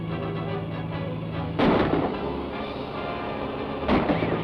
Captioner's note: gunshots